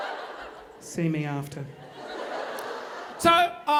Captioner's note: audience laughing